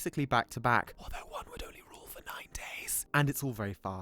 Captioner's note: whispering